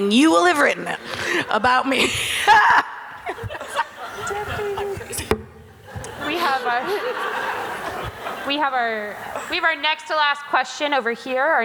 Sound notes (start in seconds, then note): 5.7 audience laughter